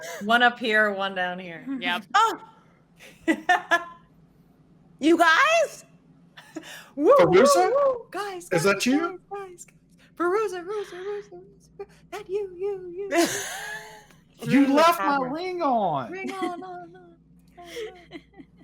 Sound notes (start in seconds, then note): 10.3 voices echoing